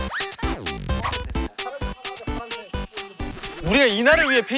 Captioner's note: midsummer mosquito